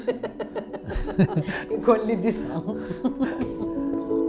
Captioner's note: laughs